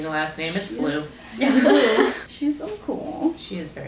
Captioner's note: laughter